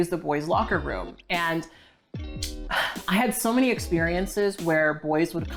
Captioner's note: sighs